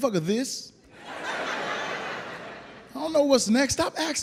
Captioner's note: audience laughs